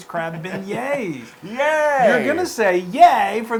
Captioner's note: laugh